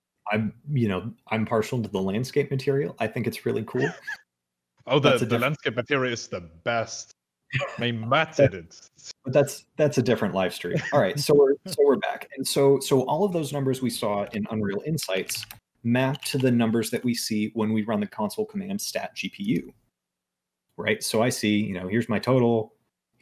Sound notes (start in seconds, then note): 3.7 laughs